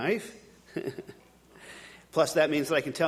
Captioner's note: chuckling